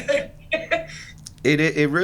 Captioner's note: laughs